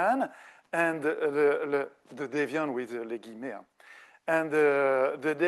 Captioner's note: speaking French